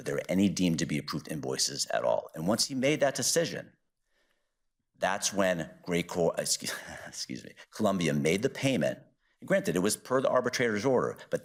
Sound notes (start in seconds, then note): 6.6 chuckles